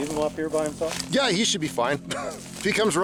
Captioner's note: chuckles